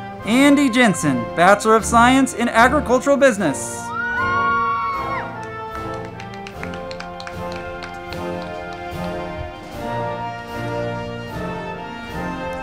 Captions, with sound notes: Andie Jensen, Bachelor of Science in Agricultural Business. (band music) (crowd clapping and cheering)